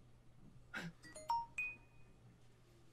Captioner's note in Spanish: nokia 5200 sonanding